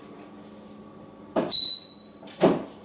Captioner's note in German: whistling